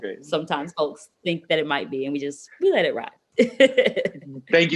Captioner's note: laughs